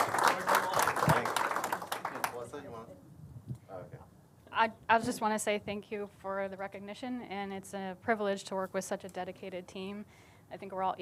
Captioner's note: applause